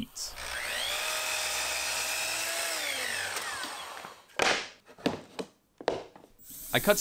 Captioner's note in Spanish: Sierra ingletadora en funcionamiento